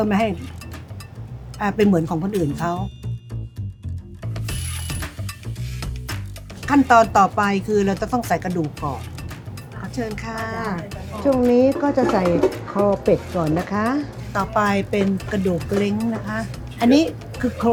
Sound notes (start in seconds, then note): 3.7 playful music continues; 6.8 speaking Thai